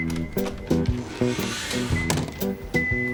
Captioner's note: door clicks; door creaks, thuds